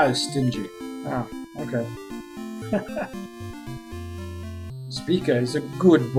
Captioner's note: chuckles